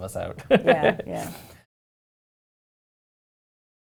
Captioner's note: chuckles